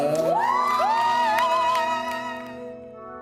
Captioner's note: cheers